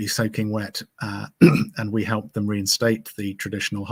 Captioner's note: clears throat